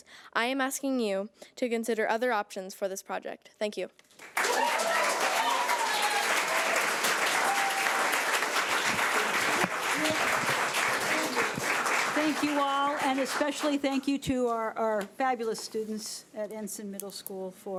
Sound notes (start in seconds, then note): 4.2 audience applauds; 4.3 audience cheers